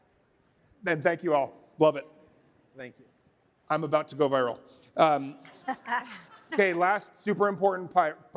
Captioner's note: laughter